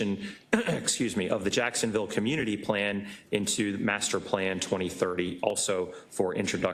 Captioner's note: cough